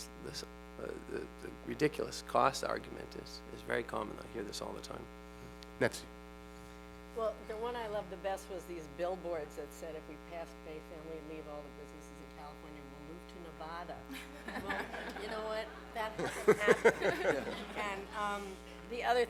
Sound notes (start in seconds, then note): 14.1 laughter